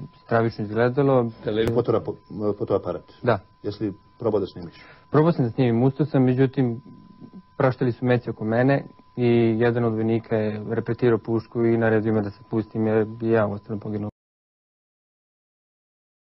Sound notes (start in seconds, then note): 1.5 news anchor speaking in foreign language; 5.0 witness speaking in foreign language